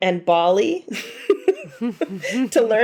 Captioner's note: women laughing